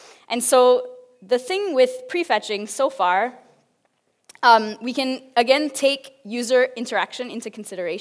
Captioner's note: none